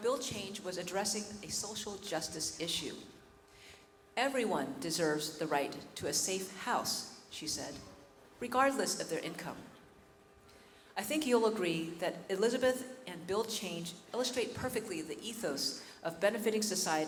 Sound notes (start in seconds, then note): none